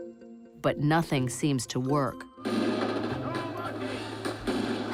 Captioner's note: man shouts indistinctly, rapid gunfire